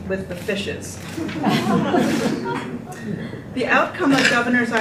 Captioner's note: group laughter